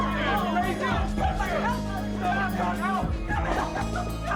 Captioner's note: glen shouting indistinctly; bea emory crying